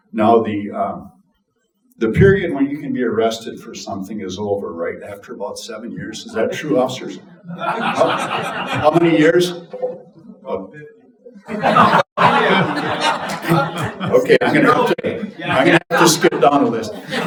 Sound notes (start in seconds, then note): 7.9 audience laughing; 11.4 audience laughing